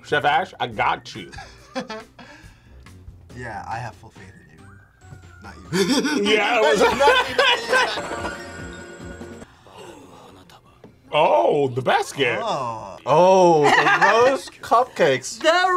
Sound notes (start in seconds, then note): 1.8 laughs; 9.5 both gasp